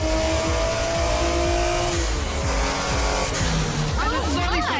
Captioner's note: cars revving